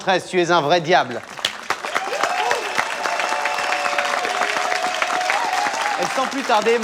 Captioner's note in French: aplaudissement